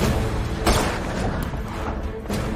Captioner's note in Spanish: Disparo